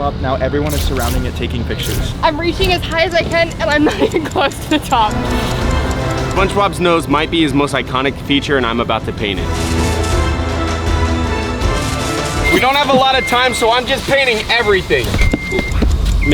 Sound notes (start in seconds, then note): 5.3 clock ticking; 5.3 intriguing dramatic music; 9.6 intriguing dramatic music